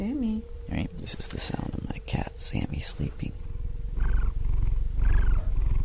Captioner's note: cat purring